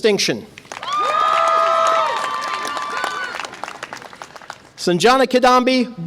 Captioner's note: audience applause and cheer